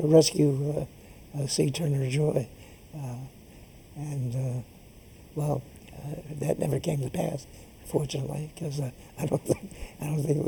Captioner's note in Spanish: risas